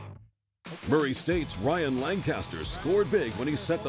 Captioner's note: voiceover